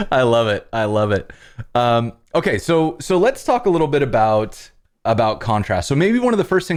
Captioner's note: laughter